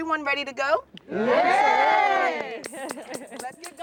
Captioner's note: cheering